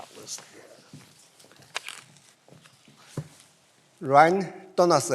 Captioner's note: faintly speaking; footsteps receding